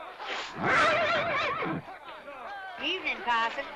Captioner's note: horse neighs